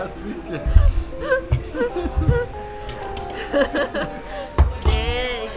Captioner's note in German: lacht